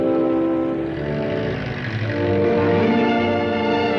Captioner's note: car engine revving